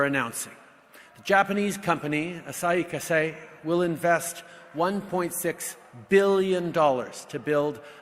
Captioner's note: speaks French